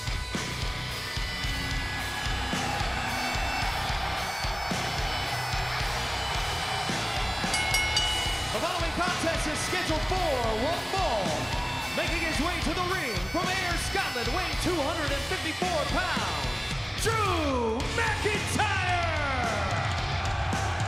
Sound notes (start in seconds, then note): 2.8 crowd cheering; 7.4 bell ringing